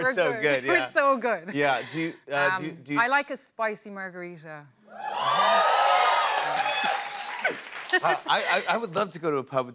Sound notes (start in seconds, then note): 5.0 cheers and applause